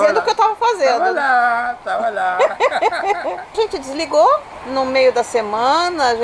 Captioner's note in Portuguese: risos